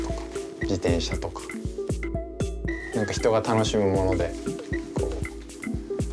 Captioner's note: continues speaking Japanese